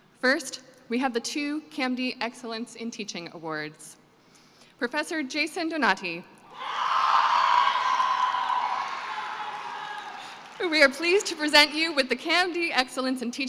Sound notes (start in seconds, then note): 6.5 cheering and applause